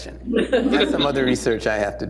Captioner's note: laughter